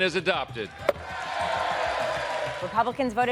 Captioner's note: congresspeople cheers